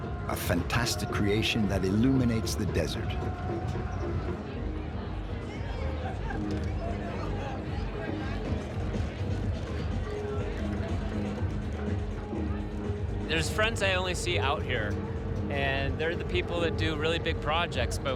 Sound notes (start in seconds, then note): 5.9 people chatting; 11.3 upbeat music